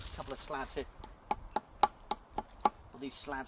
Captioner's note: tapping sound